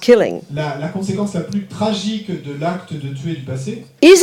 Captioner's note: speaking in French